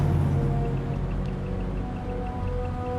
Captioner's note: device clicking